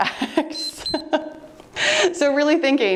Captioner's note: timer beeps; laughing